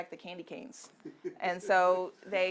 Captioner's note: audience member laughing